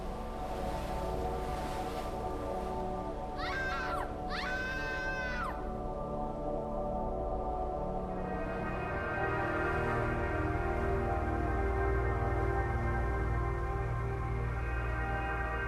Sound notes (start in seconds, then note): 3.3 screaming continues